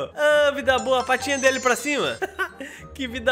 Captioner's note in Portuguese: risos